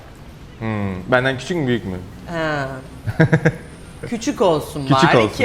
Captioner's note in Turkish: kahkaha